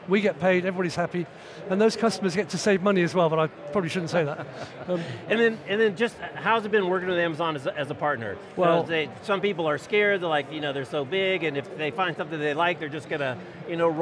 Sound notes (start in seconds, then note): 4.3 laughs